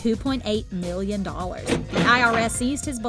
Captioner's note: cash register chiming